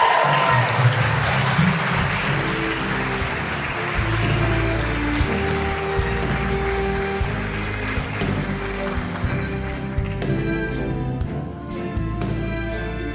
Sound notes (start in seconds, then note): 7.6 cheering and applause